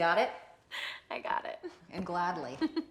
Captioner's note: laughs